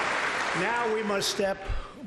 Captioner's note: applause